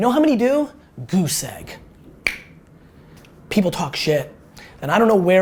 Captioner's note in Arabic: اللسان النقرات